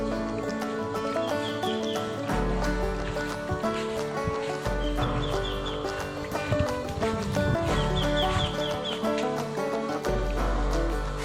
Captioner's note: can you hear the wild birds in the background???